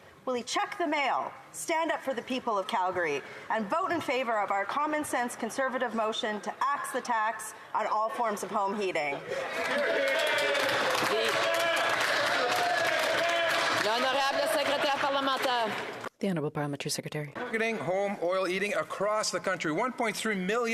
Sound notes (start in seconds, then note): 13.0 applause; 19.2 speaking in French